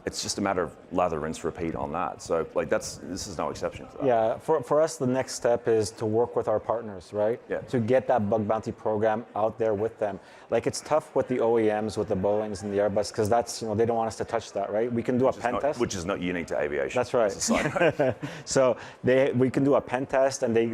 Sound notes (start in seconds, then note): 17.4 chuckling